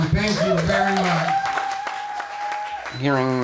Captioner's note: crowd clapping and cheering